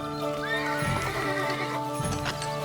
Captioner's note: horse whinnies